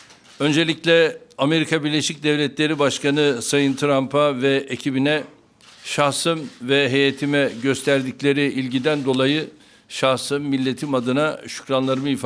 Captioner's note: speaking Turkish